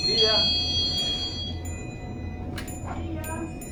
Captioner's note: bell ringing